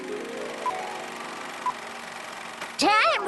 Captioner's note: film clicking